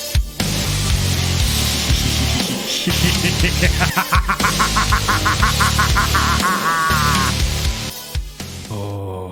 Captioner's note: mad cackling crescendos